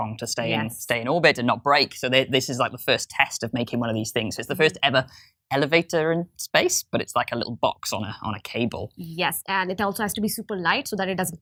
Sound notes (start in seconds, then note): none